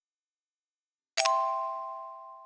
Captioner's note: ding